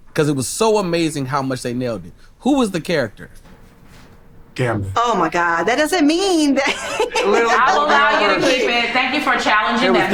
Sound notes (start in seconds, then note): 6.5 group laughs